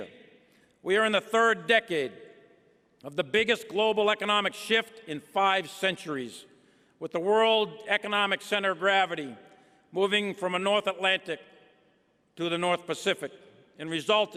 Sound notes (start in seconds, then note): none